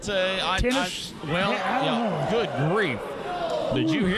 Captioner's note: crowd groans